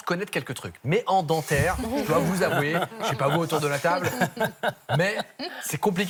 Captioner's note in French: rires